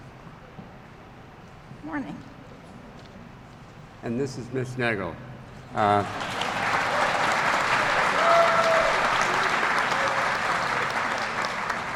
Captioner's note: applause